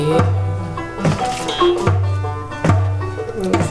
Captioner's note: paper crinkles